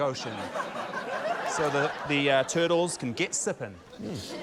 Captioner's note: laughter